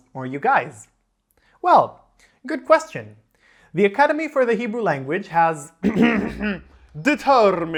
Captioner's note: ahem, ahem; silly fake British accent